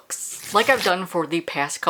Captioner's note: page rip